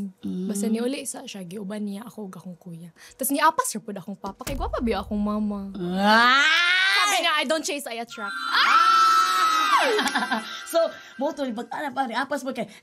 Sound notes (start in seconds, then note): 5.8 exclaims; 8.1 squeals; 8.4 chuckles